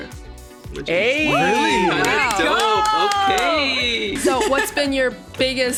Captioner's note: all cheering